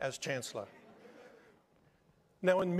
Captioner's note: attendees laughing